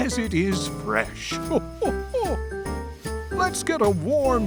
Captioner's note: chuckles